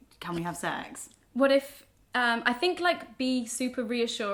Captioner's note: none